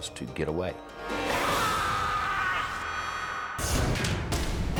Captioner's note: yelling; dramatic music